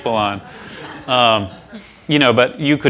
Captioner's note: laughter